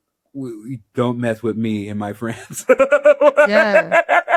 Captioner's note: laughs